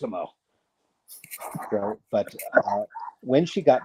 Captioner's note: chuckles